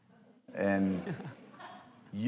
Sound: laughter

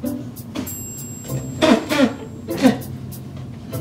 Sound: spits

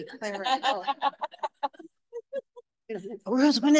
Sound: audience laughing

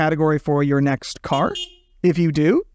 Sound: car horn beeping

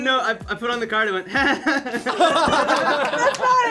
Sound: all laugh

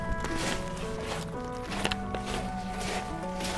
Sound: sounds of rock and gravel

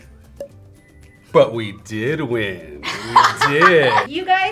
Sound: laughs

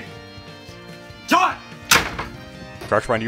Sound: door slam

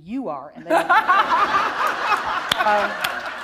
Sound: laughter

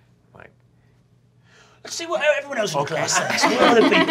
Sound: laughter

